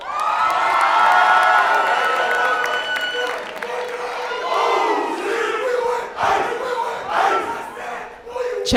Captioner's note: chanting